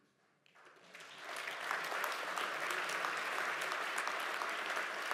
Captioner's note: audience applauds